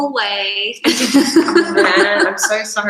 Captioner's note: laughs